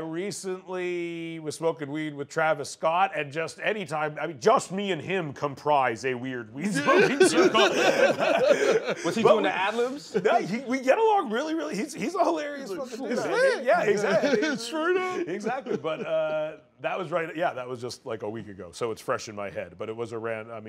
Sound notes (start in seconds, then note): 6.6 laughter